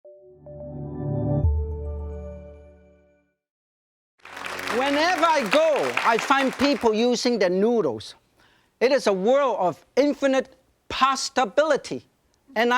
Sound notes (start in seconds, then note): 0.1 joyful music; 4.2 crowd applauding